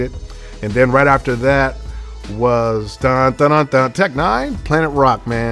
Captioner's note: humming